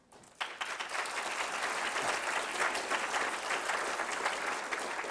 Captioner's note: applause